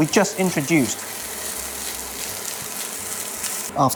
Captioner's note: sizzling sound